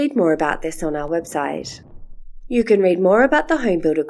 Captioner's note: background sound of thunder and lightning stops